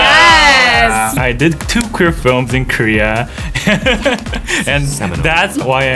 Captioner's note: laughs